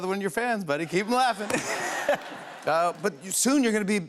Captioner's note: laughter